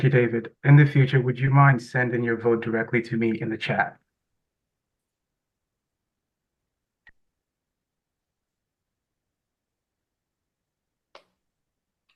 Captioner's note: pause